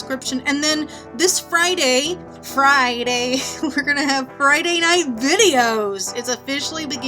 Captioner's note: sing songy